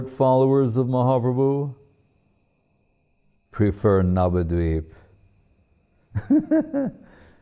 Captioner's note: laughing